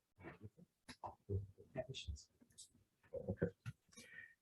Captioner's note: indistinct conversation